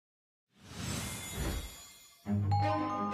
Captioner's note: wind whooshing; chimes ringing; pleasant music